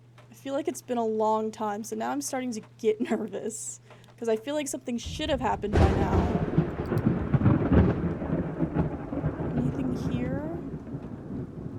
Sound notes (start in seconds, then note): 5.0 thunder